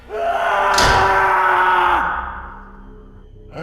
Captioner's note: David yelling